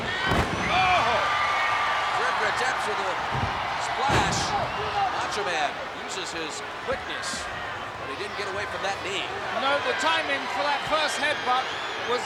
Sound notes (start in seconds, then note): 0.2 body thudding; 7.0 blows thudding